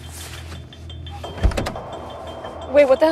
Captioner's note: tense music; door unlatching